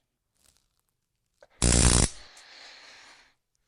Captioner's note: zap